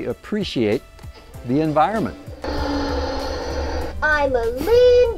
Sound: engine roars

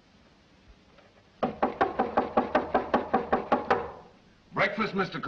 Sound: knocks on door very loudly

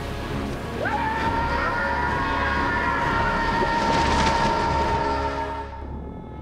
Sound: screaming

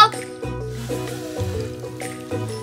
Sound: blowing; soft upbeat music

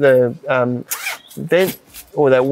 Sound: zipper pulls

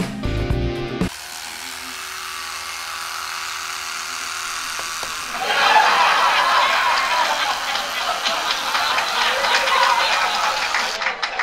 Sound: bzzzzzzzzzzzzzzzzzzzzzzzzzzzzzz

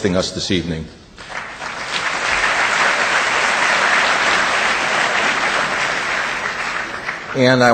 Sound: audience applause

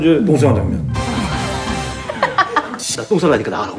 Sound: laughing

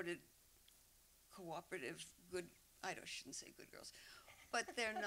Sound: laughter

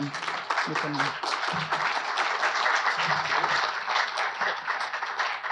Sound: audience applauds

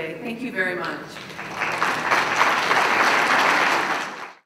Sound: applause

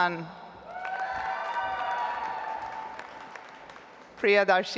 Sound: audience applauds

